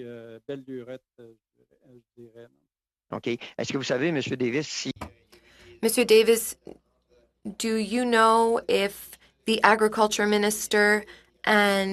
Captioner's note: speaking French